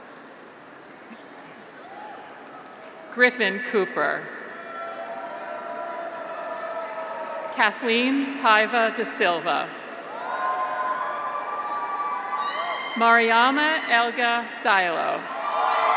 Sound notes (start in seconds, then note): 4.5 graduates cheer; 6.1 audience applauds; 10.0 graduates cheer; 15.3 graduates cheer